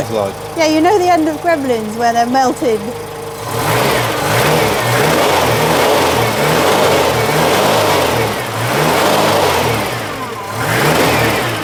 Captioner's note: engine revving